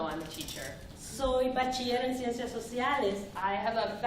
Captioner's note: speaking spanish